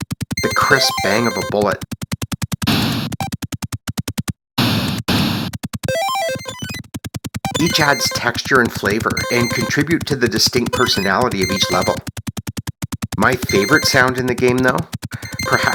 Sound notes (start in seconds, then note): 2.2 multiple bangs